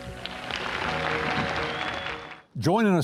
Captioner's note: upbeat music continues; audience applauds